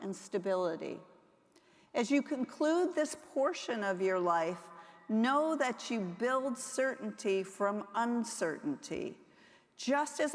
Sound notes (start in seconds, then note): none